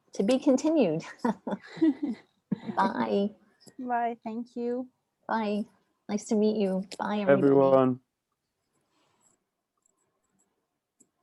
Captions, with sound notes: To be continued. [LAUGHTER] Bye. Bye. Thank you. Bye. Nice to meet you. Bye, everyone. Bye, everyone.